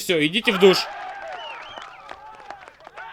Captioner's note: cheering and applause